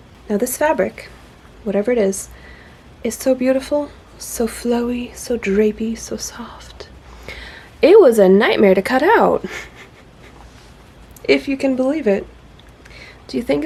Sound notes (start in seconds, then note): 9.4 laughs softly